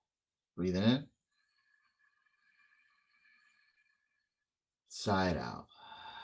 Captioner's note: inhale